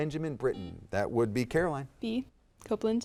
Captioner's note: buzzer dings